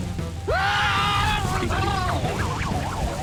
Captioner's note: screaming